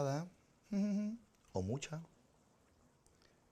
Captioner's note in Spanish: canturrea